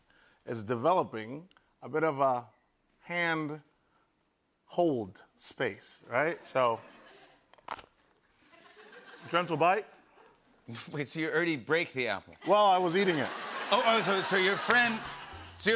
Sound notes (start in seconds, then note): 7.6 Crunch; 12.4 laughter